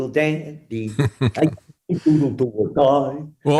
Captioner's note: laughing